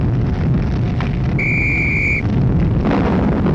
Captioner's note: whistle blowing